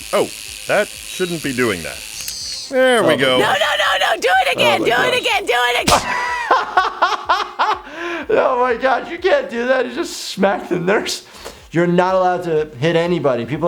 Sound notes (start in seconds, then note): 5.3 laughing; 5.8 loud smack